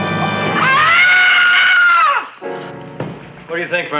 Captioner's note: Mrs. Feuchtwanger screams